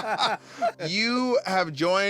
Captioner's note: laughter